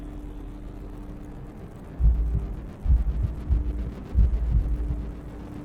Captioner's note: heartbeats